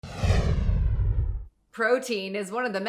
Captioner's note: swooshing